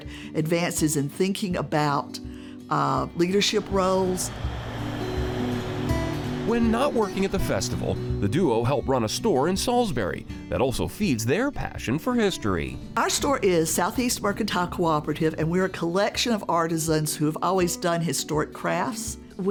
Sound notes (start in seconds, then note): 3.3 engine roars